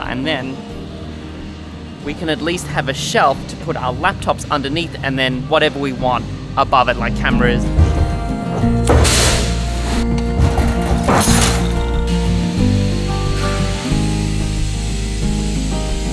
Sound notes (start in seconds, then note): 8.0 machinery humming; 9.1 metal clanking; 11.2 metal clattering; 11.2 thumping; 13.0 machinery buzzing